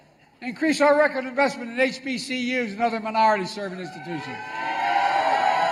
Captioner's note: applause